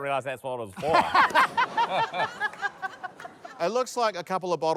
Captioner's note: laughter